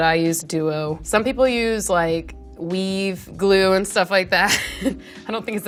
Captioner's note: laughs